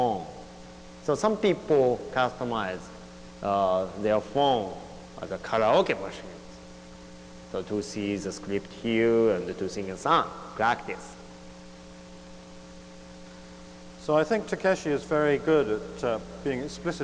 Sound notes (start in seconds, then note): none